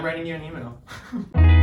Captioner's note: chuckling